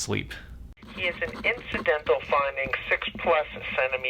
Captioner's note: radio Chatter